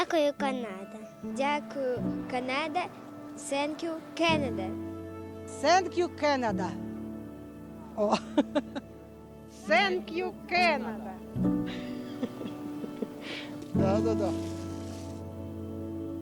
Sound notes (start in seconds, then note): 7.9 laughing